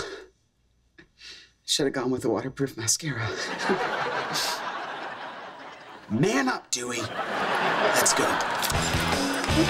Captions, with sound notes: Should've gone with a waterproof mascara. [chuckles, sniffles] Man up, Dewey. Let's go.